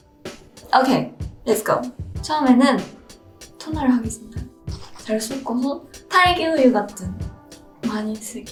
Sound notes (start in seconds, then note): 2.2 speaking in foreign language